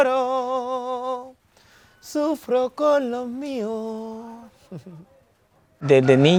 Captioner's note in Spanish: ríe